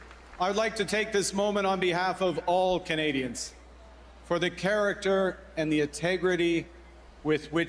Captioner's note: cheers and Applause